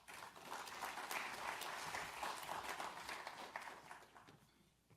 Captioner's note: audience applauds